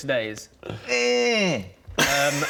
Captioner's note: eeerghh